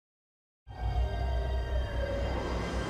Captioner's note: siren wailing